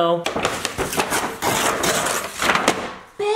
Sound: paper ripping

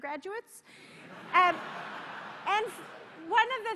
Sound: laughter

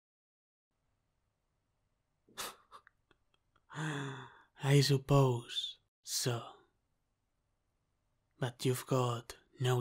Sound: laughs

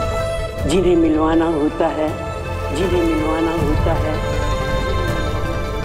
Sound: echoing

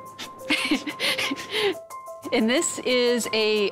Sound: laughing

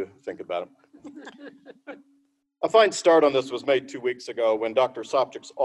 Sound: laughter

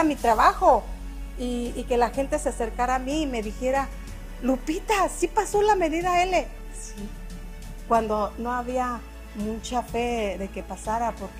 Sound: speaking spanish

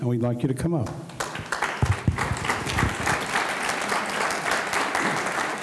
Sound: audience clapping

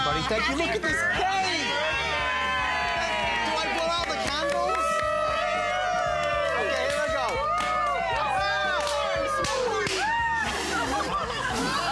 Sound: applause

